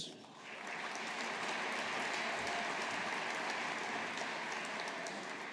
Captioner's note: audience applauding